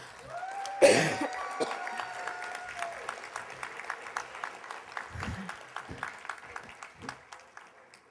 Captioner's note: applause